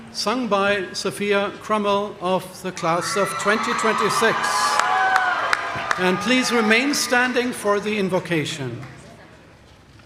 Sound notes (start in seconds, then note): 3.0 audience cheering